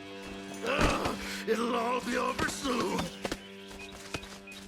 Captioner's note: grunts